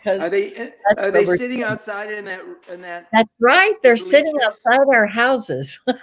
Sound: laughs

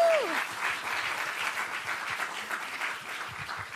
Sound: applause

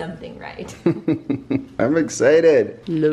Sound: laughing

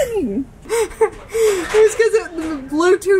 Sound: laughs

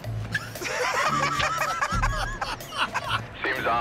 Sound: laughter

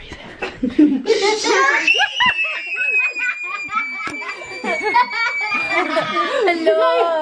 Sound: laughing and screaming

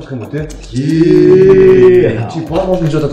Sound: booo

